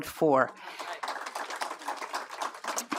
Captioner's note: applause